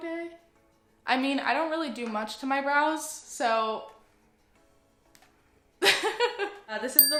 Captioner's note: laughs; ding